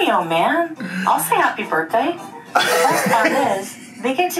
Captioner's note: laughs